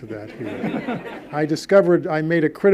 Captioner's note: audience laughs